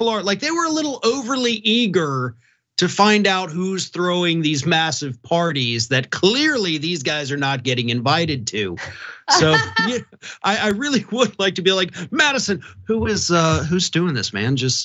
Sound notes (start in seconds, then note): 8.0 laugh